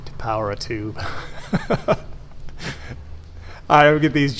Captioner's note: laughs